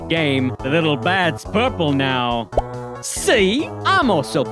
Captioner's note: pops